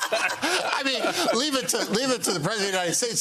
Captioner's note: laughter